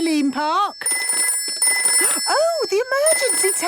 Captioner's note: phone ringing